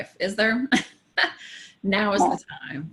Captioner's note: laughs